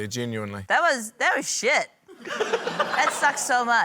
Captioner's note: laughter